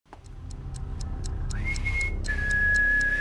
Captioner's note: clock ticking; eerie whistle